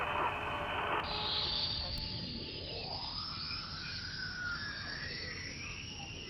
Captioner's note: eerie whistling sound